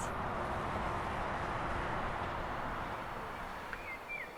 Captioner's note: traffic noise